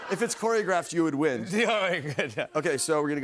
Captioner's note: chuckles